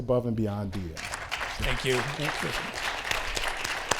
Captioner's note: audience clapping